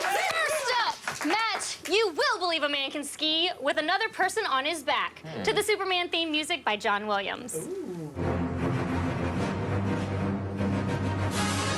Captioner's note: applause